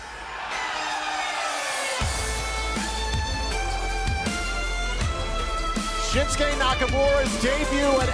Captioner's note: cheers and applause